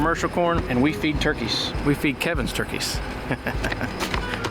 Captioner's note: chuckling